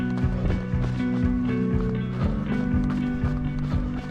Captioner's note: heavy breathing